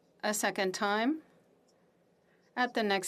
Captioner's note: speaking FRENCH